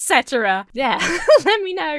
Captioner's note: Emma laughs